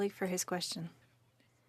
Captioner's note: speaking French